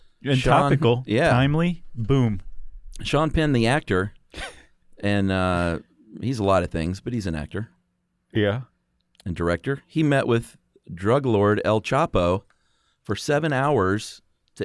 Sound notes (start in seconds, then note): 4.3 laughs